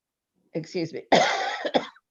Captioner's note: coughs